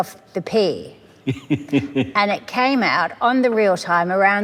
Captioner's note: snickers